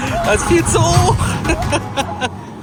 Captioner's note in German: gelächter